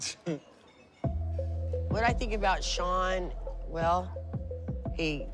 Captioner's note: chuckles